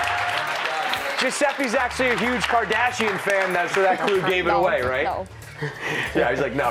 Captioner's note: applause